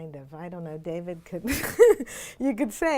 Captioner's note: laughs